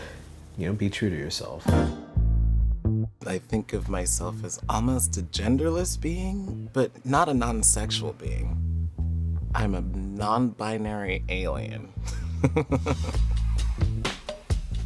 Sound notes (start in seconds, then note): 12.1 laughs